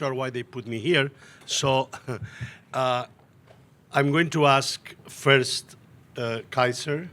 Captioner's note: chuckles